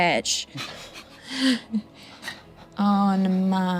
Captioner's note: group chuckles